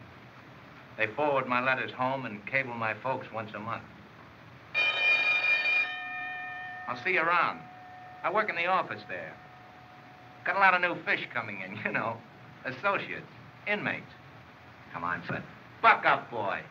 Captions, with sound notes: They forward my letters home and cable my folks once a month. [ Bell Rings ] I'll see you around. I work in the office there. Got a lot of new fish coming in. You know, associates, inmates. Come on, son. Buck up, boy.